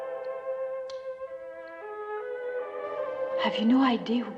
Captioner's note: nail Clippers Clicking